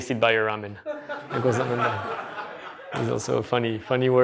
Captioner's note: laughter